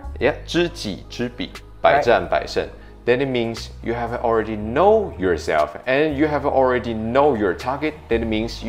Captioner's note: speaks in Chinese